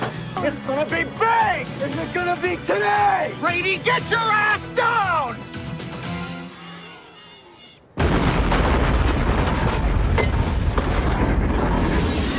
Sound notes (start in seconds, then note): 8.0 big explosion